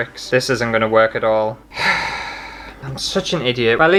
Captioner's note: sigh